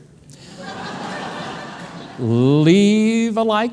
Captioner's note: audience laughing